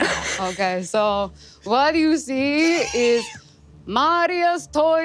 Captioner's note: eastern European accent